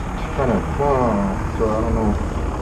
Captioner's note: mimics engine